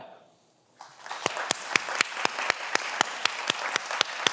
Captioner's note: everyone applauds